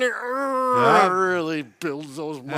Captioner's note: groaning